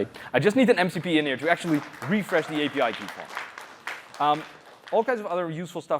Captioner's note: applause